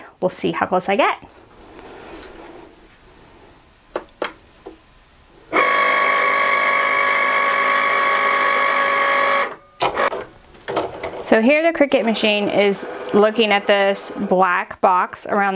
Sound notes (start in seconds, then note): 5.4 machine whirring